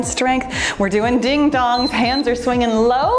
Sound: timer beeps

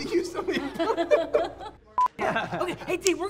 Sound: laughter

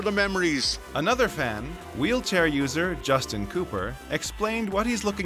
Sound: voiceover

